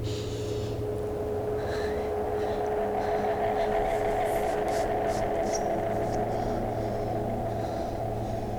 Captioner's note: tired breathing, and tension music